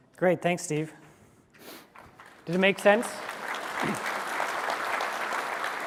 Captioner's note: applause